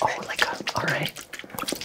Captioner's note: water sloshes